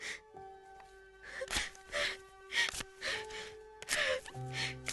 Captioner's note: sobbing